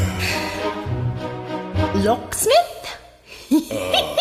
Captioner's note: sighs